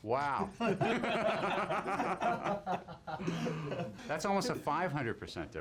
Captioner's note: laughs